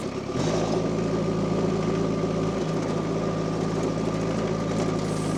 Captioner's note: machine rumbling continues